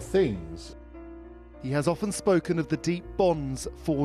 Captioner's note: voiceover